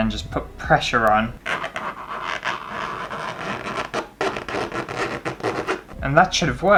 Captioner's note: horrible Scraping Sound